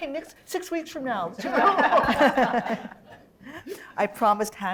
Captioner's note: laughter